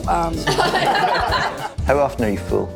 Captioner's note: laughter